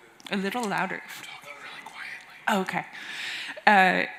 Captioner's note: whispering